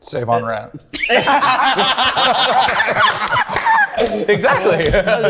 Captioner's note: group laughing